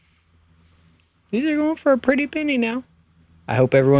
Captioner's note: high pitched